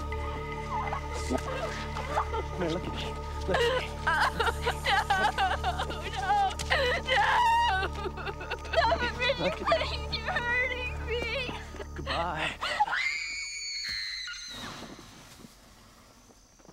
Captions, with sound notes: [SOBBING] No! No! No! Stop it, Richard, please. You're hurting me! Bye. [SCREAMS]